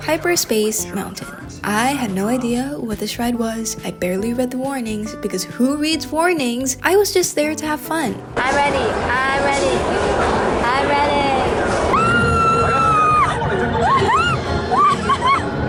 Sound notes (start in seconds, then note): 11.5 tortured screaming; 13.8 pained laughter